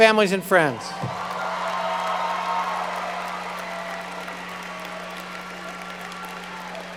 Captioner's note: audience cheering and applauding